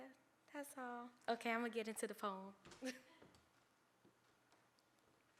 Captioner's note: chuckles